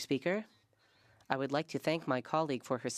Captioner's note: speaking French